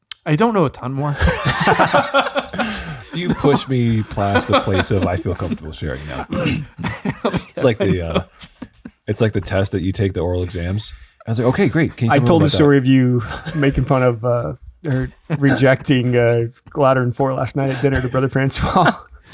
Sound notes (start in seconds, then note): 1.6 group laughing